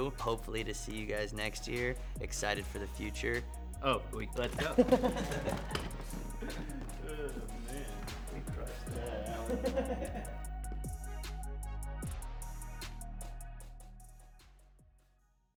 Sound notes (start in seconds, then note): 3.8 laughing; 11.1 upbeat music